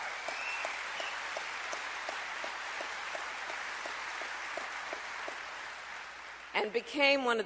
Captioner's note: applause